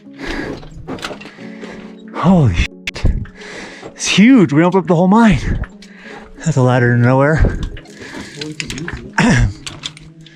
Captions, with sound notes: Holy. It's huge. We (murmurs) the whole mine. There's a ladder to nowhere.